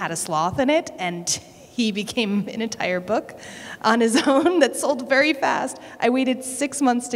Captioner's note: laughter